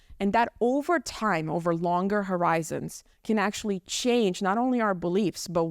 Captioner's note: none